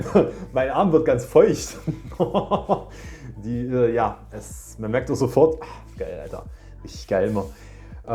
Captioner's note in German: gelächter